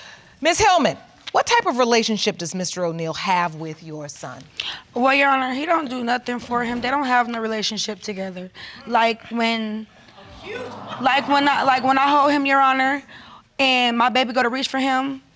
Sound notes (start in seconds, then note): 10.2 audience exclaims